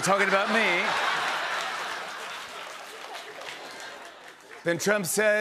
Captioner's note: laughter